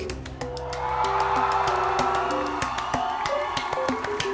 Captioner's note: audience cheering